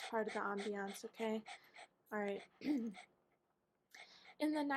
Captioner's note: clears throat